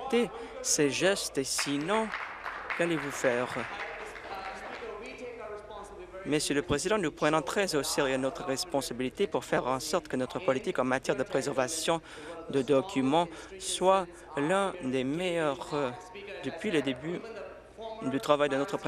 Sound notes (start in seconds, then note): 4.8 applause